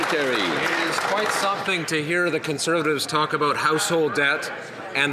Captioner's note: some Applause